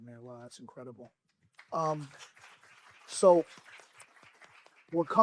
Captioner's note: applause